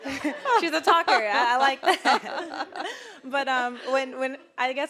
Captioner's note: all laughing